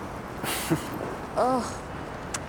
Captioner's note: chuckling